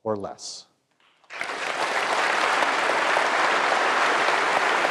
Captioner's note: applause